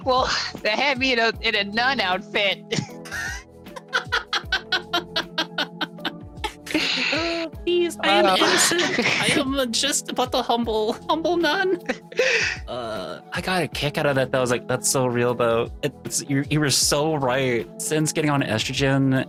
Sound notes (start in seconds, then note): 3.7 both laugh